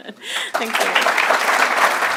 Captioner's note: applause